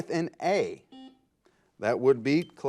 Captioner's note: buzzer